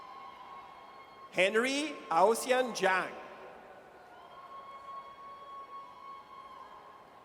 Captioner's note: audience cheers